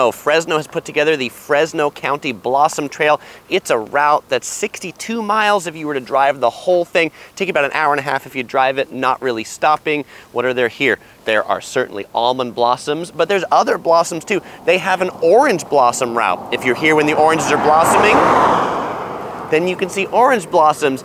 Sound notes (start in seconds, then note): 18.4 traffic roaring